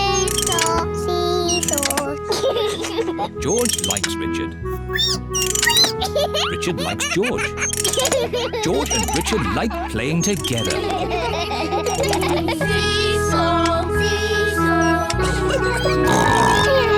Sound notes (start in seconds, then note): 2.3 giggles; 5.4 squeaks; 10.9 all laugh